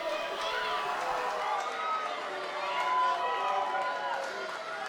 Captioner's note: crowd booing